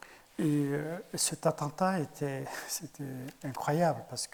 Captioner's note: speaking in French